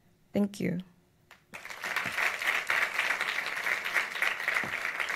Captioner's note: audience applauds